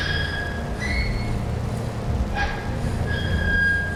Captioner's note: metal whines